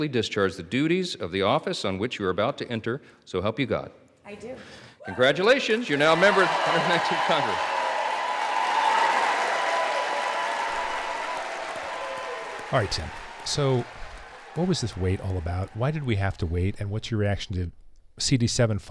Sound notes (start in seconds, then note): 7.6 audience cheering